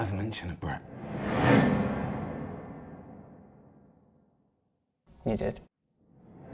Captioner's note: memory image whooshes